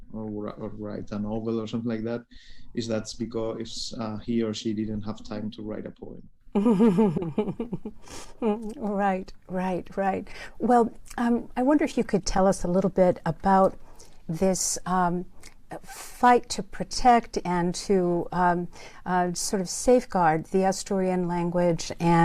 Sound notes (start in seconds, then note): 6.6 laughs